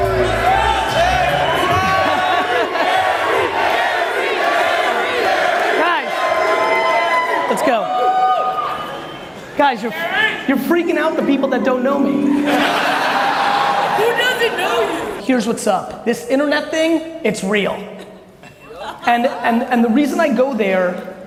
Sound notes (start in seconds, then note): 11.9 audience laughs